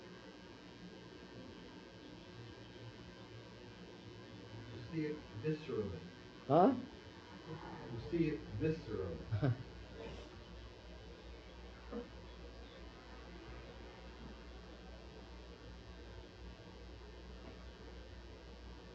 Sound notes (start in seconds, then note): 9.1 laughs